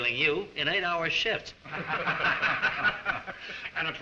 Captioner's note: all laugh